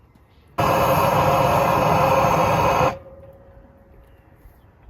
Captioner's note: torch roaring